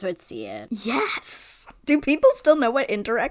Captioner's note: excitedly